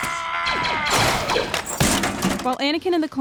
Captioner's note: blaster fire